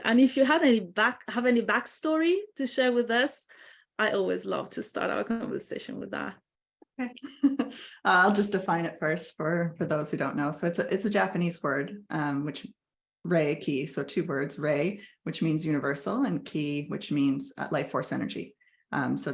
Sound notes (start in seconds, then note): 7.9 laughs